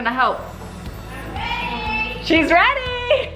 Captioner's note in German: schreit